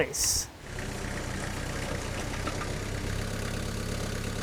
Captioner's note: machine whirring